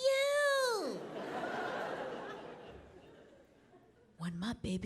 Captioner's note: audience laughing